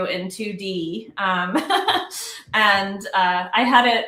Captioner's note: laughs